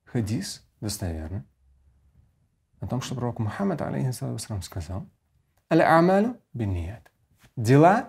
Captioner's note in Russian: Говорит на арабском